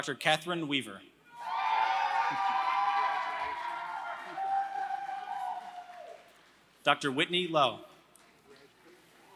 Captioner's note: applause